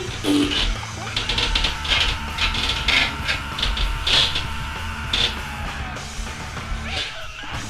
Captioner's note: chair squeaks loudly